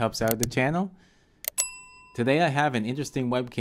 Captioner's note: bell dings